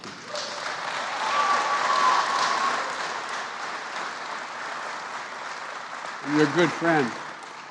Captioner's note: applause